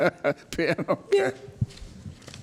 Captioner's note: laughs